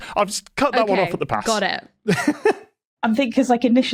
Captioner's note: laughs